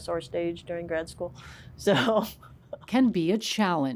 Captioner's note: laughs